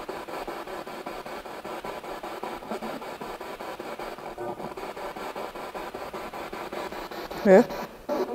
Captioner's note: noise of the spiritbox in the background